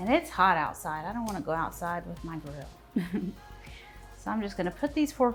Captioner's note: laughs